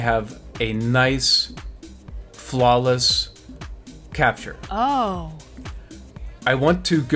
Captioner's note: female voice: Ohhhh